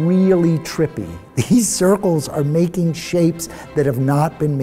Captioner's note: chuckles